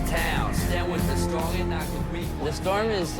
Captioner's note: city traffic